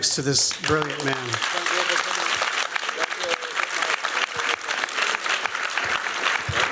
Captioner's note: applause